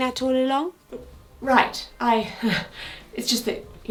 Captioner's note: chuckles nervously